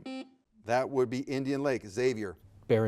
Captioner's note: buzzer beeps